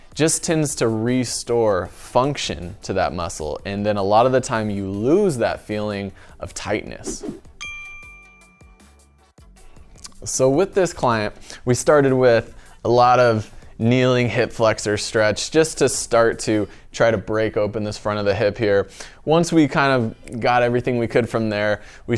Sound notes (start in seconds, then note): 7.6 bell sound